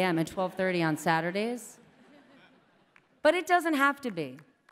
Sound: laughter

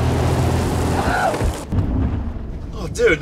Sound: screeching

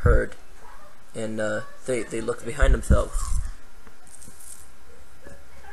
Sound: turning sounds

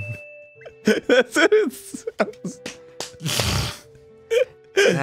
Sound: laughing; clapping like a seal; snorts

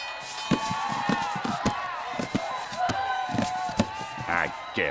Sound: thudding

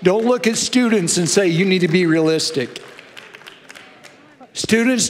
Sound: congregation applauding

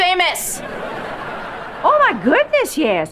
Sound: laughing

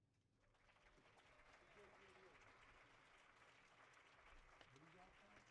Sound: audience applauding

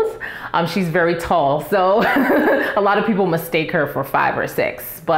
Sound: laughs

